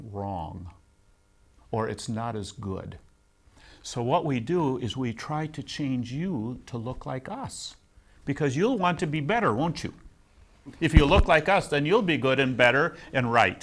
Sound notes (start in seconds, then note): 10.1 laughs